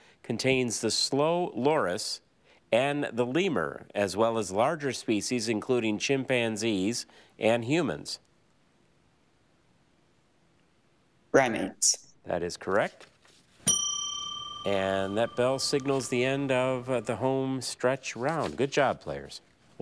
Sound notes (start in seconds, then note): 13.6 bell ringing